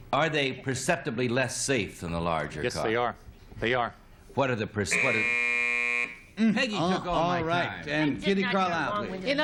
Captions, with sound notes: are they perceptibly less safe than the larger cars? - Yes, they are. They are. - What are the-- what-- [buzzer] Peggy took all my time. - All right, and Kitty Carlisle, please.